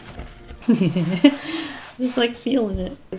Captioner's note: laughs